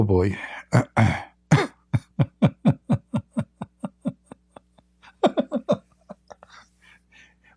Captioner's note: Ketawa